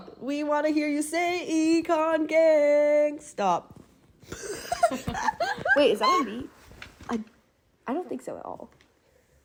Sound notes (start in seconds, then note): 4.3 laughter